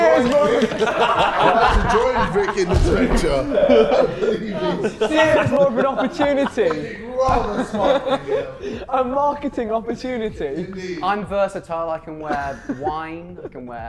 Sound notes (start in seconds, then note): 0.1 Sidemen laughing; 3.4 Sidemen laughing; 7.0 Sidemen laughing